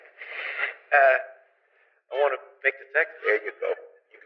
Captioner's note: laughs